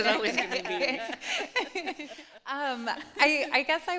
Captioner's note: laughter